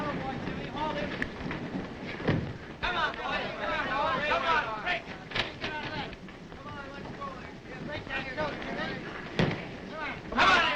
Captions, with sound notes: - That-a-boy Jimmy, haul him. - Come on boy, come on. - Boy, let's go. (crowd shouting)